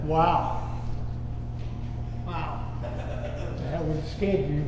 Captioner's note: man laughing